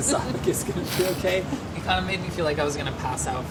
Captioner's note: laughing